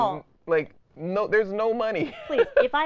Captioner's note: laughing